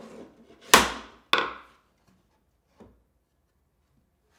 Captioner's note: mallet thuds